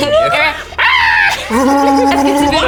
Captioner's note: battle cry; laughs